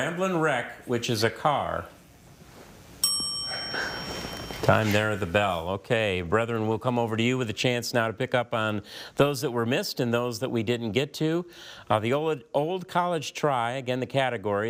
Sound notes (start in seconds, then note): 3.0 bell dinging; 3.2 players chuckling